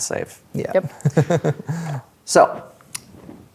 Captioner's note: chuckles